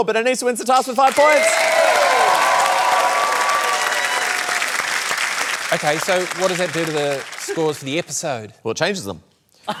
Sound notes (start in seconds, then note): 1.0 cheering, applause; 9.6 laughter